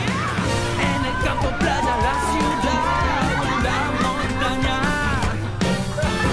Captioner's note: cheering and laughing